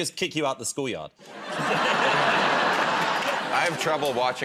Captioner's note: laughter